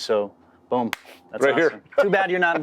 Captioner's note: laughs